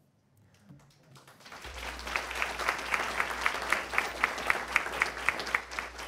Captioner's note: attendees applauding